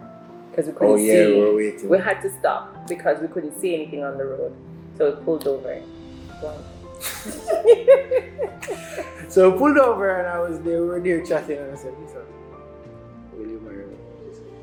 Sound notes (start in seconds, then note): 7.0 laughs